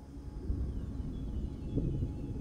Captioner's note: thunder rumbling; ethereal music playing